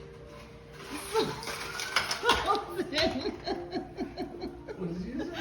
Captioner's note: laughing incessantly